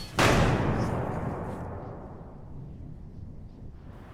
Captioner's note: door clacking; door slamming